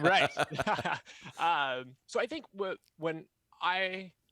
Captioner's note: both laugh